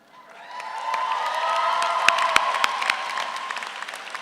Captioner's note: audience applauds